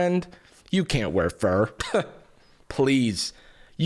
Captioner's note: scoffs